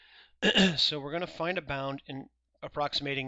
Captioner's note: clears throat